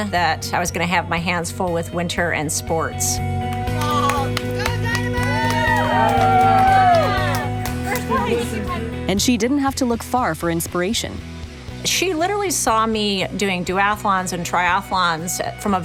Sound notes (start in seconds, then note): 3.7 crowd cheering